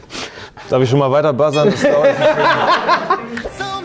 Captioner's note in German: Lachen